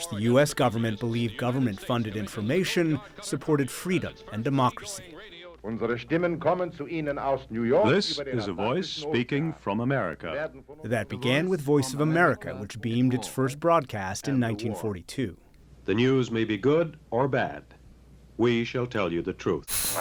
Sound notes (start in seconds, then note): 7.3 through translator